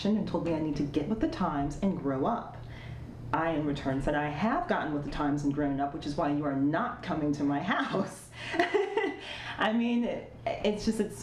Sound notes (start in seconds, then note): 8.3 laughing